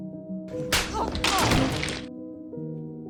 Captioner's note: Rita cries out in pain